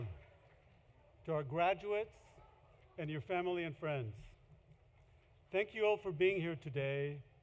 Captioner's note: cheering